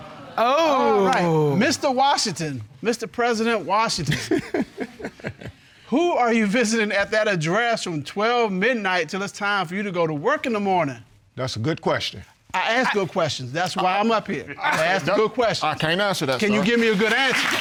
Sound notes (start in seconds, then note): 4.0 chuckles